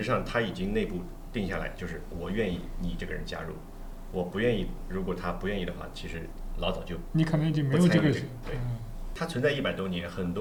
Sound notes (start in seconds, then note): none